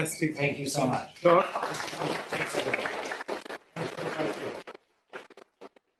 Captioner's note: applause